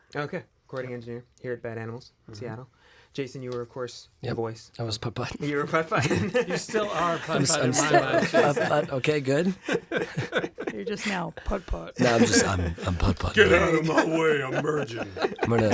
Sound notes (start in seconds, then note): 5.9 laughs; 9.6 laughing; 11.4 deeper voice; 13.6 burly voice; 15.5 laughing